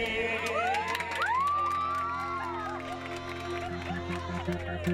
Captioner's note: applause; piano playing